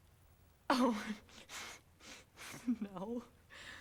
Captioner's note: giggles nervously